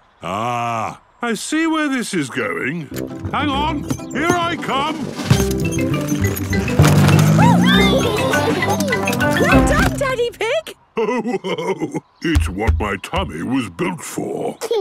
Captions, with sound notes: - Ah. I see where this is going. Hang on! Here I come! - Oh! - Wee! (giggles) - Well done, Daddy Pig. (laughing) - It's what my tummy was built for!